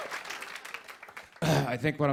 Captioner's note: sighs